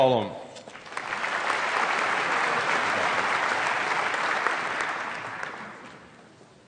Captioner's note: applause